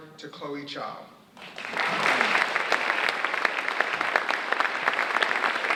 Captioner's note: audience applauding